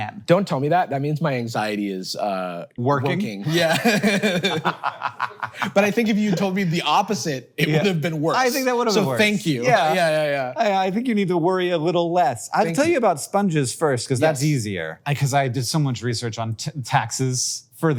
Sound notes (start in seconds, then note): 3.5 both chuckle